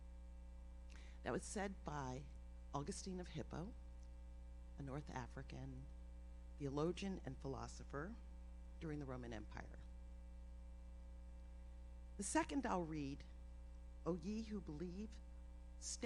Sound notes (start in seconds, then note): none